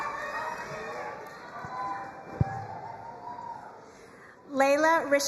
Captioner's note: crowd cheering and applauding